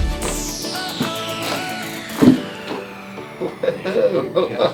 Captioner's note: joints cracking and popping